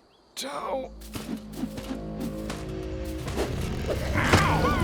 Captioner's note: sinister music; axe whooshes; Homer grunts